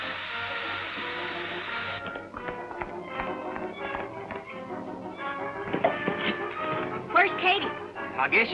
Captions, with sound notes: (horse galloping) - Where's Katie?